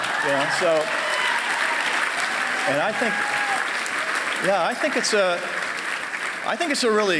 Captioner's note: applause